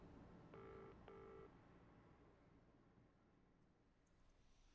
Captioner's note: phone ringing